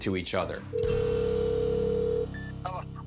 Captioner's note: phone line ringing